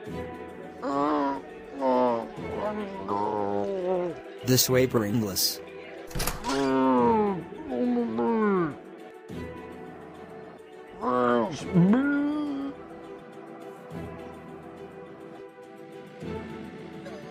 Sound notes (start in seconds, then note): 0.7 zombie speak; 6.6 frustrated zombie moan; 11.0 zombie speak